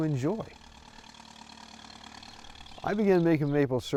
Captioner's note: tractor engine